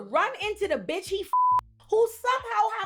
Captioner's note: beep